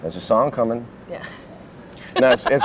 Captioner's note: laughs